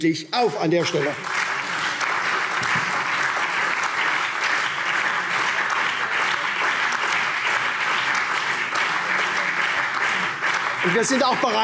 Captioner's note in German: Beifall